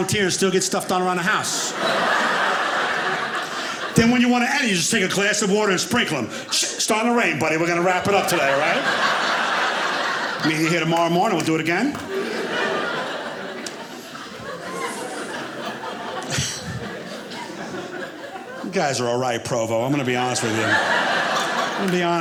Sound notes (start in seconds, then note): 2.0 audience laughing; 12.5 audience laughing